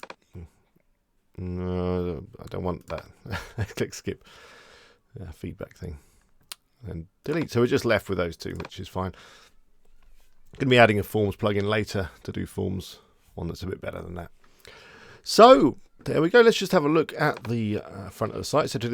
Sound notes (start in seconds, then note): 3.2 chuckling